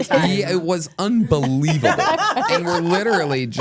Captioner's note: laugh